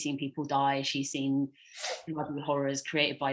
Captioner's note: audio cutting out